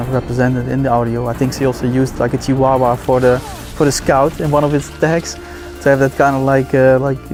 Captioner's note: صدای پارس سگ را تقلید می کند